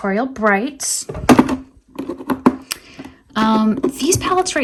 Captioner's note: item thudding